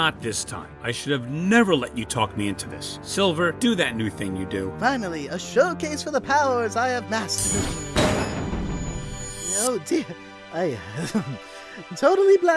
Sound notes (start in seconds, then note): 8.3 boom